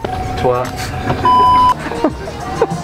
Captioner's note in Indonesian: tertawa